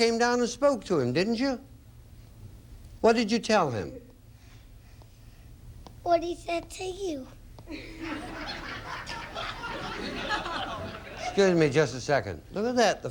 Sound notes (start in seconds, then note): 7.7 audience laughing